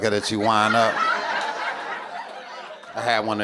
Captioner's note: audience cackling